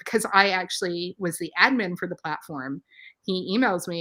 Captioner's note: none